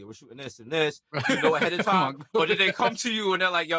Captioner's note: laughing